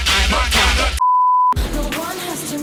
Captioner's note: beep